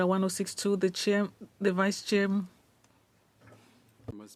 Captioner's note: speaking French